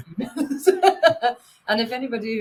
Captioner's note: laughing